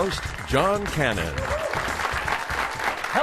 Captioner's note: applause